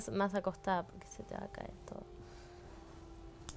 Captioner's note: whispers